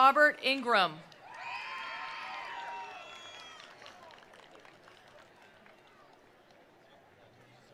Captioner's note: attendees cheering; attendees applauding